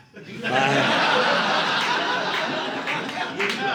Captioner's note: audience laughing